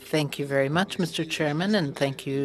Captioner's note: speaking French